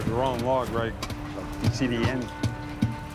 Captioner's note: thudding on wood